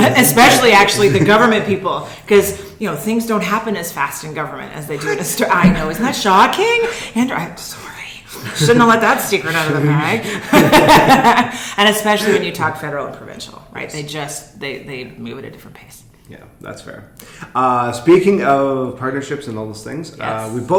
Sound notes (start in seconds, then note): 11.7 laughs